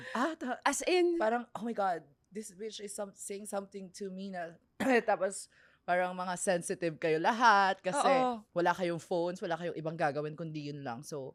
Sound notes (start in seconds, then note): 4.8 coughs